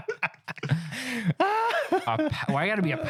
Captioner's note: laughing